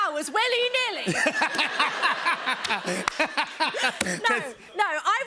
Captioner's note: laughter